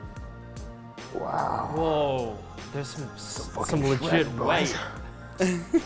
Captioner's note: sounds of awe